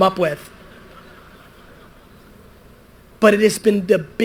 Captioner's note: audience laughter